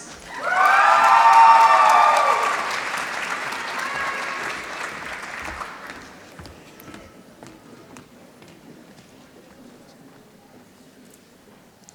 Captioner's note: applause